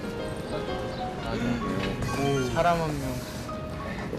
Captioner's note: gasps